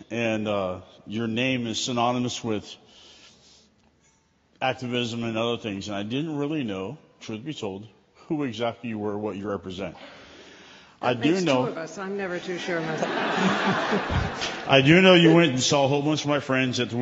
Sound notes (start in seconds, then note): 12.6 laughter